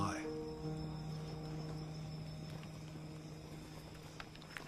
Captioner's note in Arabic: الصراصير النقيق